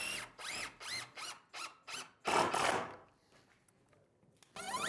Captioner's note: drill whirring